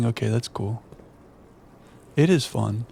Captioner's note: silence